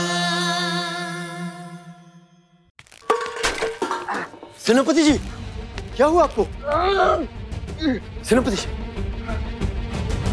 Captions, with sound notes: General, what happened? [groaning] General. [tense music]